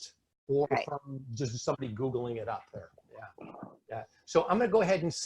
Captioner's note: speaking faintly